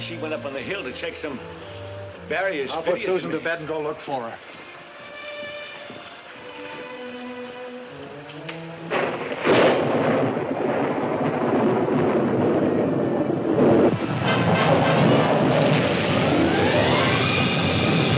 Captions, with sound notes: she went up on the hill to check some barriers-- - I'll put Susan to bed and go look for her. (soft music) (thunder claps) (dramatic music)